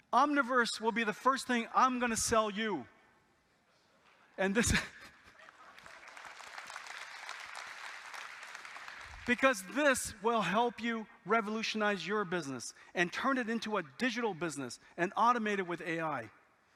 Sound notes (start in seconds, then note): 5.4 audience applauding